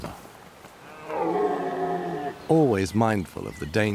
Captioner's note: stag roars